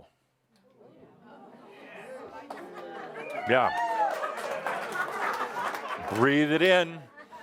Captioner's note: audience cheering and applause